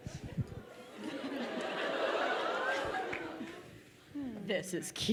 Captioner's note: crowd laughing